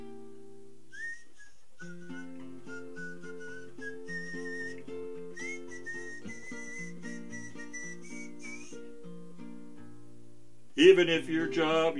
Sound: Mangy whistles through one of the many holes in his head

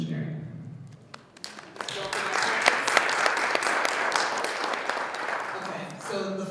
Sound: audience applauding

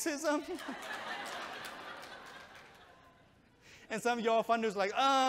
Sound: audience chuckles

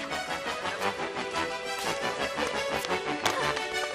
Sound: indistinct chatter

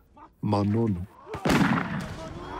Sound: gunshot

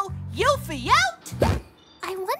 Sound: poof

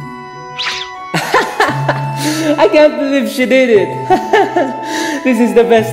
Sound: laughing

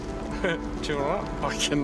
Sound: laughs

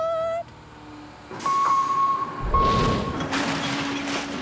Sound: truck beeping

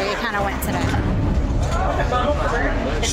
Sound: loud chatter

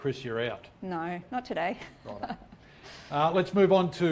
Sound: chuckles

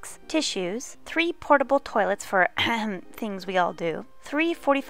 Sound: ahem

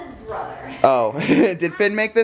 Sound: laughs

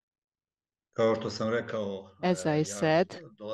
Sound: non-english speech

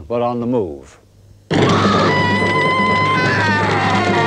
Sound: screaming

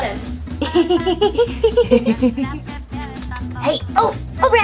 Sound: chuckles

